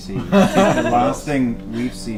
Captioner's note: all laugh